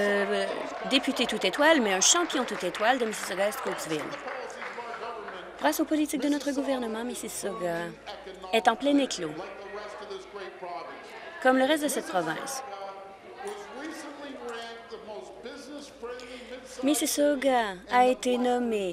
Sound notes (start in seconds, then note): 0.0 applause; 5.6 applause